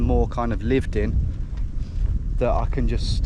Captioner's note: air whooshing